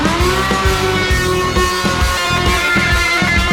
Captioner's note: router running